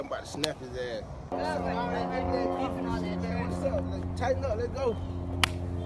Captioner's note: arguing